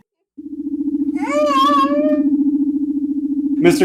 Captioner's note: cries